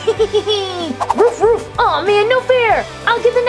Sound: Rocky barking

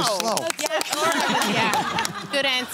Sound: laughter

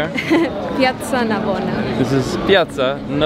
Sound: laughs

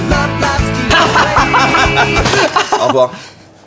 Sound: laughing

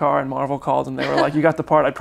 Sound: laughs

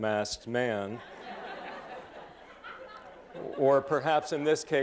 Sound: laughter

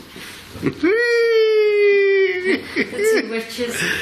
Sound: laughs

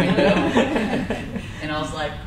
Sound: crowd laughs

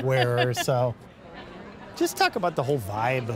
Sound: crowd chatter

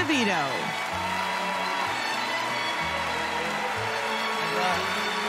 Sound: cheers and applause

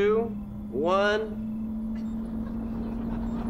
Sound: humming

